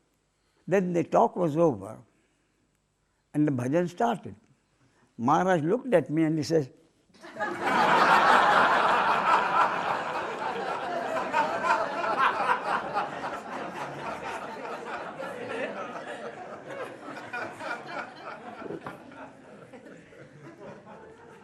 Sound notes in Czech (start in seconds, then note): 10.7 smích